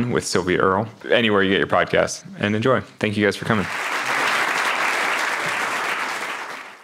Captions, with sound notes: with Sylvia Earle, anywhere you get your podcast and enjoy. Thank you guys for coming. (audience applauds)